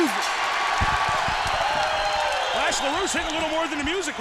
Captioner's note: crowd cheering